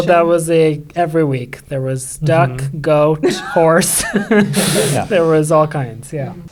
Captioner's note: laughs